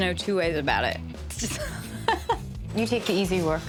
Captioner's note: laughs